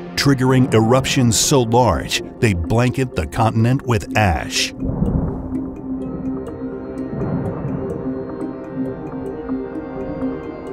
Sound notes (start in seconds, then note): 4.9 eruptions booming; 4.9 intense music